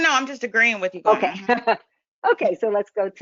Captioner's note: laughs